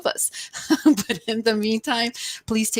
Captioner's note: chuckles